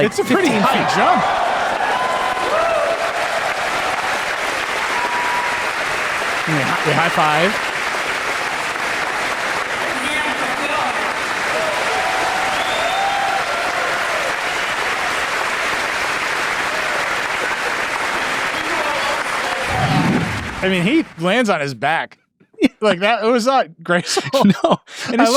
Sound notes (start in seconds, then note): 2.5 audience cheering; 8.2 audience clapping; 11.5 audience cheering; 19.7 air whooshing; 24.0 laughing